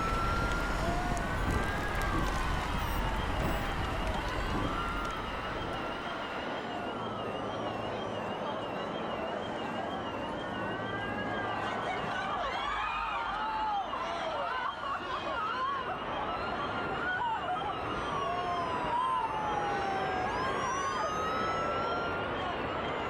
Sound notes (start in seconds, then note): 0.0 debris crashing; 0.0 siren blaring; 12.5 onlookers screaming; 20.3 siren blaring